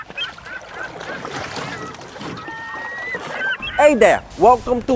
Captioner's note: birds chirping